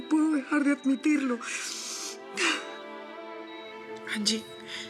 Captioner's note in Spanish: Sollozos